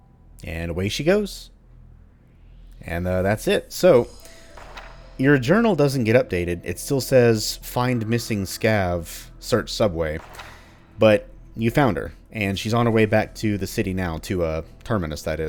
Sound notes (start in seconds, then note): 4.5 journal opens; 10.2 journal closes